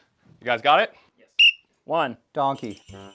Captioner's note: whistle